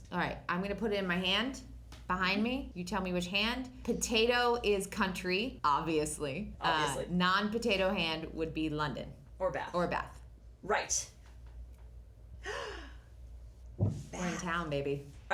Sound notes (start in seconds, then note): 12.4 gasp